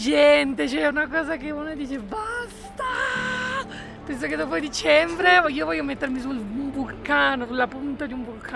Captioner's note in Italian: urlo